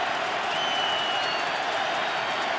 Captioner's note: cheering